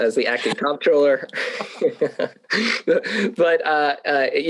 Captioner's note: both laughing